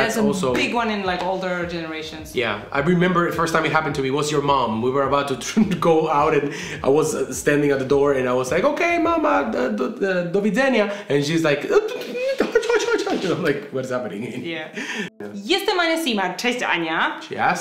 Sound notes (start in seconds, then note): 9.5 speaking in Polish; 16.4 speaking in Polish